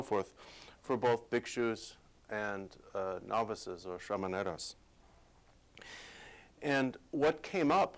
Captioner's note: non-english speech